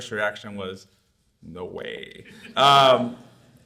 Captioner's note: audience laughs